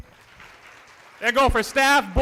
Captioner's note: applause